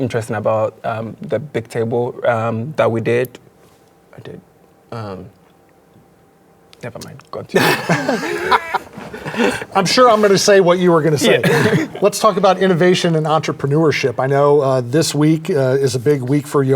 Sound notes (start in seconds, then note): 7.5 all laughing